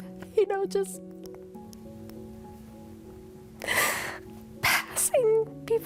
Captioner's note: sobbing